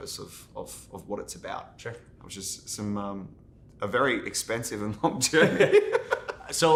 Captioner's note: laughs